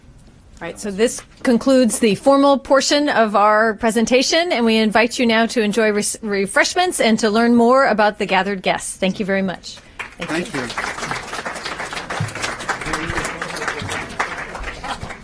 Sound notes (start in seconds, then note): 11.5 applause